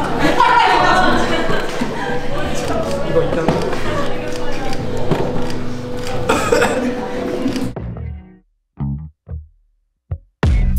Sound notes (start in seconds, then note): 6.2 out of order / Coughs